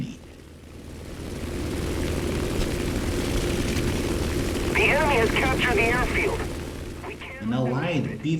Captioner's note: aircraft Engines ,Gunfire, Flying Sounds